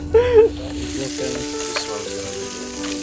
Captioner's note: indistinct conversation; both laughing; sizzling